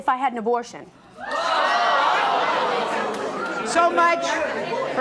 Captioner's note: audience jeering